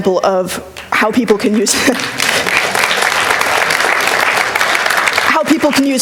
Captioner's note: applause